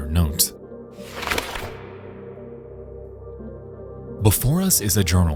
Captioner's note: note flutters